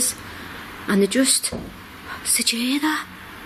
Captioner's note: knocks